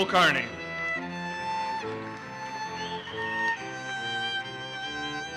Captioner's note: audience applauses